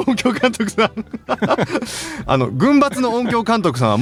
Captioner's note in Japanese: 笑い